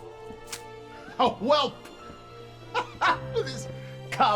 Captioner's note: laughing